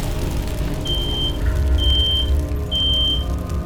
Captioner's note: smoke alarm beeps